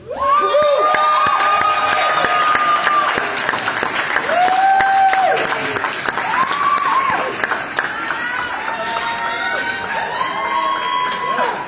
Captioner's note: applause